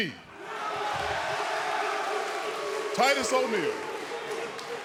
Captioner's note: cheers & boos